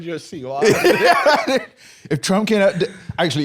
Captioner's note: laughs